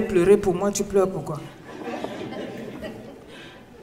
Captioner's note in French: rires